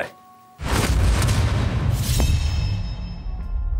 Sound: whoosh

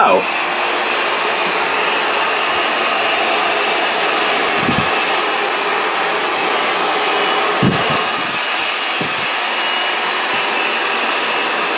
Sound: hair dryer blows

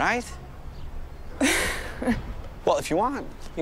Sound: chuckles

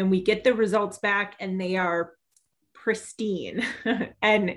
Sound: giggles

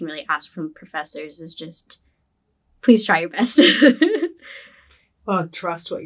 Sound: laughs

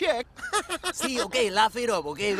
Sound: laughs

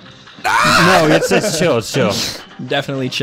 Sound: laughs; yelling; calmly

